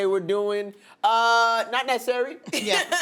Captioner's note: laughter